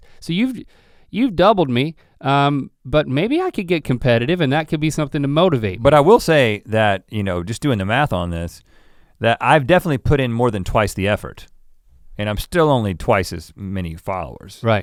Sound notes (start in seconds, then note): none